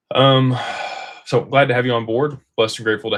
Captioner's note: sighs and gasps